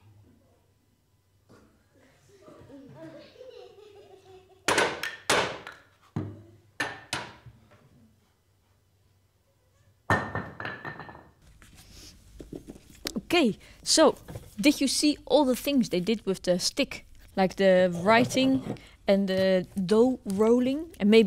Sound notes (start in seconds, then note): 4.6 sticks clattering